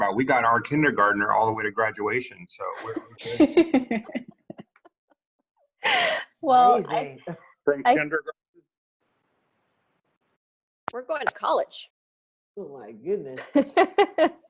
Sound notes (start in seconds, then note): 2.6 laughing; 13.4 laughs